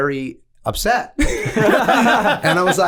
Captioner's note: all laughing